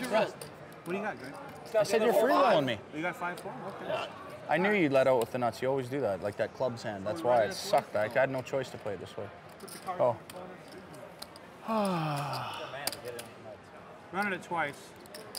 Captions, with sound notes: - Yes. - What do you got, Greg? - I said you're free-rolling me. - You got five-four, okay. - I knew you led out with the nuts, you always do that. Like that clubs hand, that's why it sucked. I had no choice to play it this way. Go. (yawns) - Running it twice.